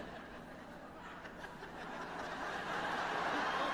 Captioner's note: laughter